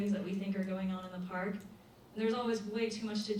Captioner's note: none